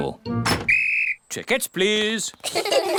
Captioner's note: blows whistle; all laugh